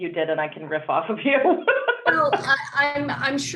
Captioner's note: laughing